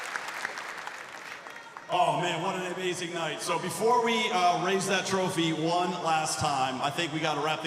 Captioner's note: cheers and applause